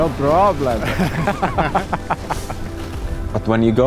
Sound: laughing

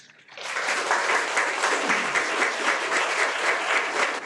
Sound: everyone applauds

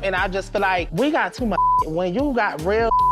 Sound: beep

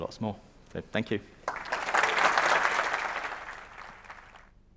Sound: applause

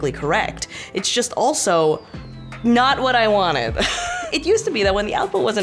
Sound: chuckles

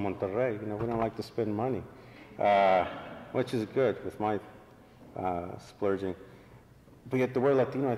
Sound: laughter

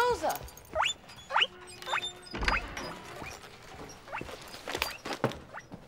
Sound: guinea pig squeaking

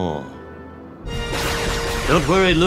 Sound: blasters shooting

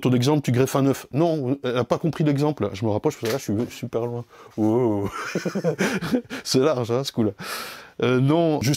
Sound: laugh

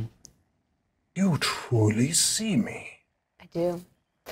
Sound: deep voice

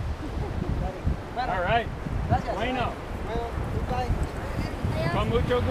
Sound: speaking foreign language

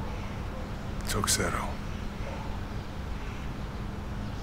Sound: in Greek

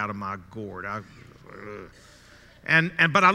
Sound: groans softly

